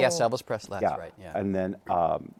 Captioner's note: none